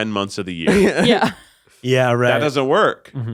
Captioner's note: all laughing